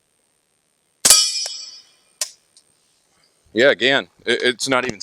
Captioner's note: gunshot